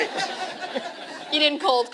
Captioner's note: laughter